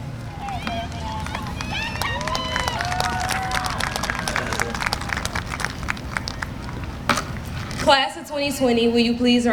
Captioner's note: applause